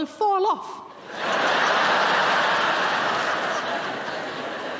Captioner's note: audience laughing